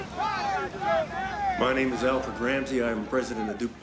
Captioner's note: men shouting